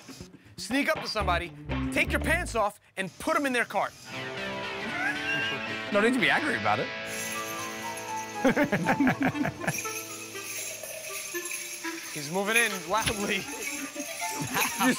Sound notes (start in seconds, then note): 8.4 laughter; 9.6 bells jingle